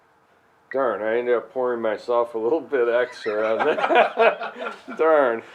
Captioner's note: laughter